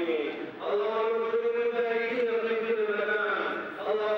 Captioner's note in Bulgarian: аудио на арабски